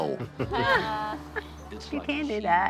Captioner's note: group laughing